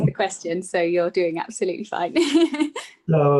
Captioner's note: laughs